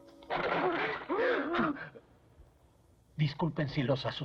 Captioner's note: both Gasp